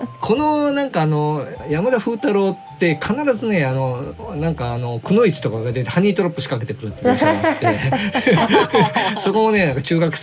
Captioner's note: laughs